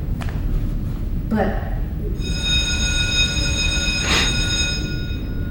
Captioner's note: bell ringing